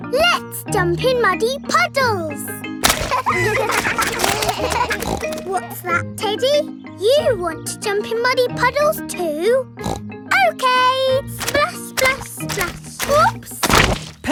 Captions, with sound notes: Let's jump in muddy puddles! (KIDS LAUGHING) (SNORTS) What's that, Teddy? You want to jump in muddy puddles too? (SNORTS) Okay! Splash, splash, splash! Oops!